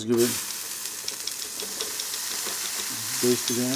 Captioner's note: ribs sizzle